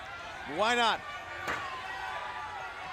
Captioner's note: crowd chatter